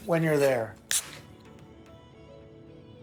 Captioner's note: beer cap pops, fizzes